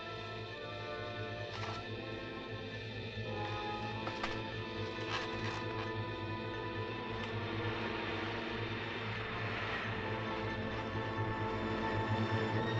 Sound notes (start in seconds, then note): 7.7 car engine rumbling